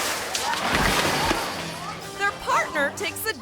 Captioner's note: water sloshing; feet pattering; fence rattles